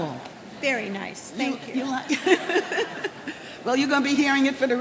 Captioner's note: chuckling